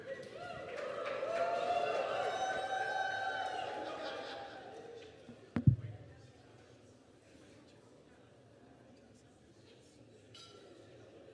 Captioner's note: cheers; applause